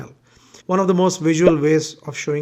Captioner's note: bubble popping